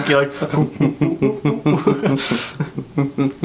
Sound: more humming

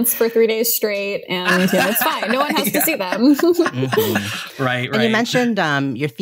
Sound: laughter

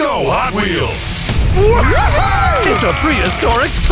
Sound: whooping

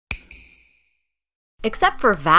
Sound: snap

